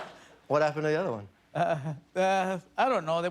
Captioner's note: laughter